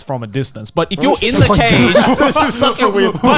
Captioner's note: laughs